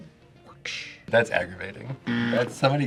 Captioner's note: buzzer rings